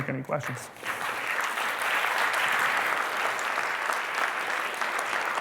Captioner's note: applause